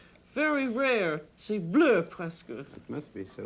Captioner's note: french